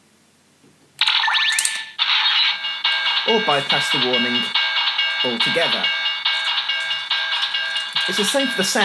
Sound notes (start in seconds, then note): 1.0 electronic chime; 1.0 electronics click